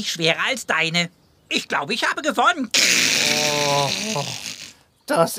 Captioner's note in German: seufzt